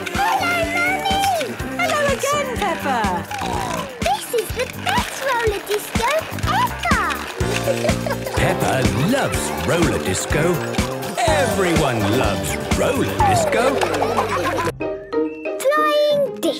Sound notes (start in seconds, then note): 1.7 snorting; 13.5 laughter